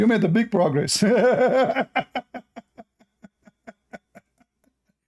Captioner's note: Ketawa